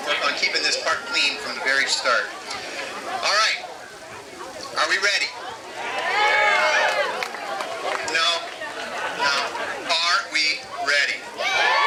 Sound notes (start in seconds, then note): 6.0 crowd; 11.2 crowd cheering louder